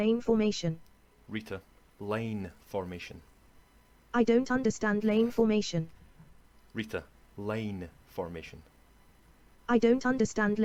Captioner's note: Scottish accent